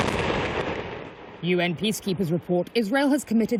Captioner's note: voice-over